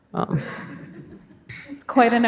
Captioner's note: audience laughs